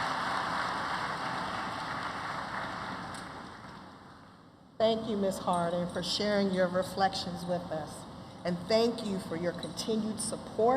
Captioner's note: applause